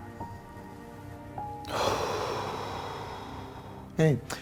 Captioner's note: deep breath